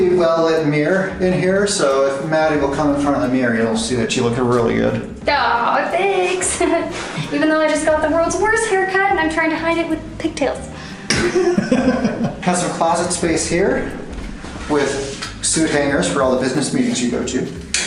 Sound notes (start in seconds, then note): 11.0 laughs